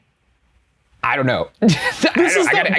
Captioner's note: laughs